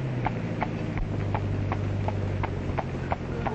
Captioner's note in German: Pferdegetrappel